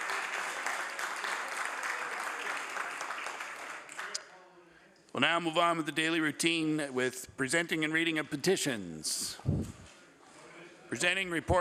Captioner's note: applause